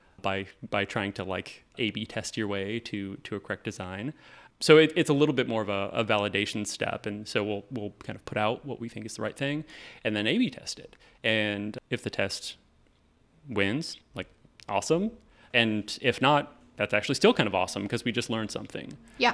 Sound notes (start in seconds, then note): none